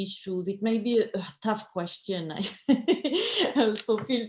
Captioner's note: laughs